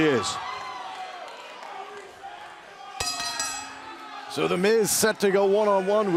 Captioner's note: bell ringing